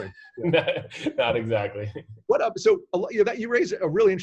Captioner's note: laughs